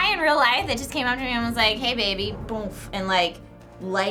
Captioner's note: boomf